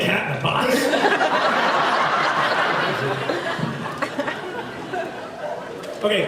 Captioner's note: laughs